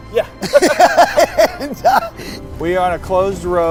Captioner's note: laughing